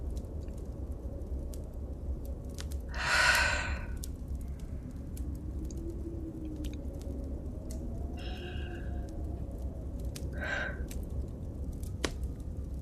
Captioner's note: deep Breath